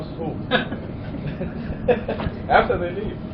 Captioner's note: laughter